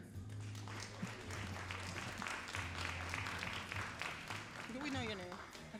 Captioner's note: all applauding